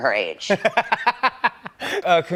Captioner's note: laughs